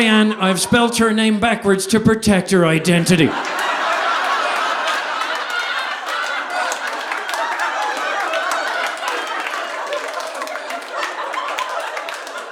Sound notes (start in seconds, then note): 2.9 audience laughing; 3.3 audience applauding